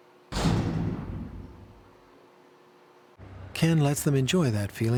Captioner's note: cell door clangs